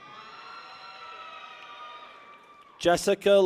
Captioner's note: people cheer